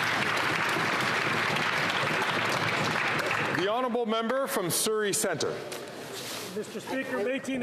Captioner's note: some Applause